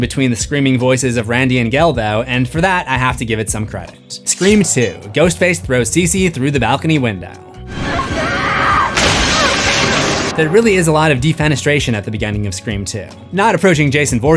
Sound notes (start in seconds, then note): 7.7 screams